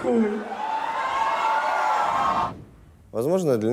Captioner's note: crowd cheers